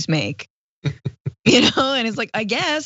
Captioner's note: laugh